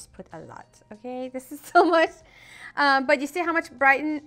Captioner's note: laughing